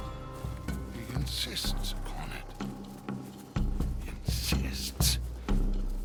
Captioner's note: whispers